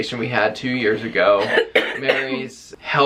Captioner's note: coughing